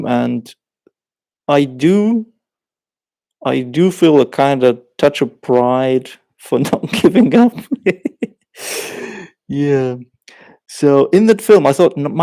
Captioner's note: laughs